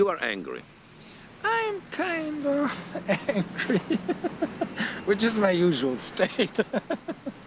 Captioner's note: laughs